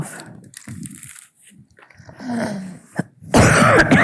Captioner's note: wrapper crinkling; coughing